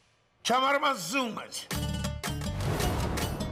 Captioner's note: Farsi spoken audio